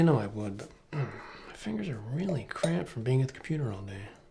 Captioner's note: groans